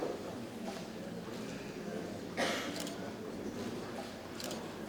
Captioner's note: camera clicking